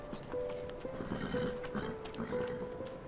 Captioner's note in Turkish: At kişneme sesi